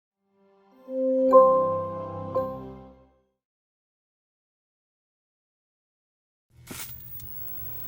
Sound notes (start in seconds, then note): 2.3 bell dings